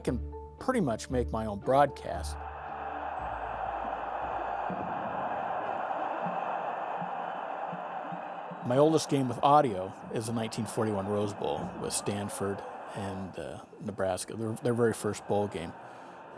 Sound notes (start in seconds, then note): 2.8 crowd cheering